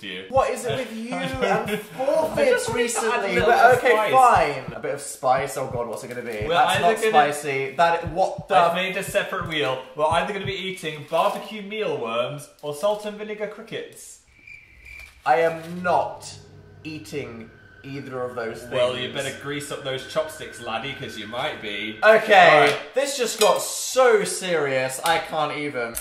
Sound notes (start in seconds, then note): 14.2 very fitting crickets sound effekt